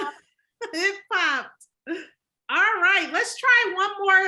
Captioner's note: laughs